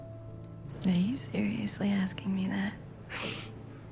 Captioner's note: voiceover